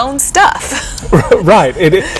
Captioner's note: chuckle